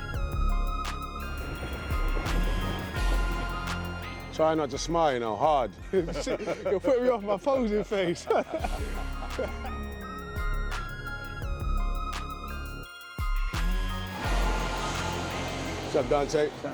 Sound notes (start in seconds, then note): 9.2 laughs